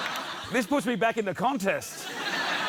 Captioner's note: laughter